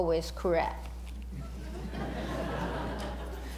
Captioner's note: laughter